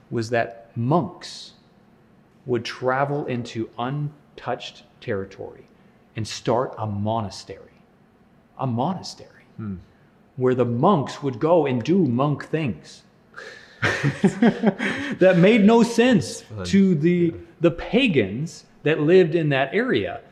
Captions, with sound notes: was that monks would travel into untouched territory and start a monastery. A monastery! Where the monks would go in and do monk things. (laughs) That made no sense to the pagans that lived in that area.